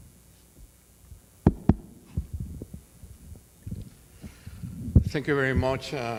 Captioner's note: microphone pops